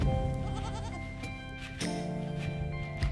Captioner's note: bleating